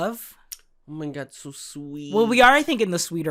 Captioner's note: sarcastic